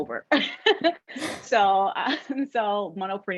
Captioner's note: laughter